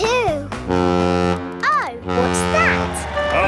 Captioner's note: horn bellowing